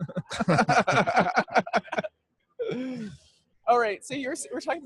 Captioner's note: all laughing